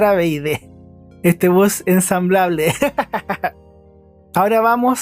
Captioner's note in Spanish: risas